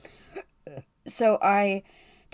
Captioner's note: burps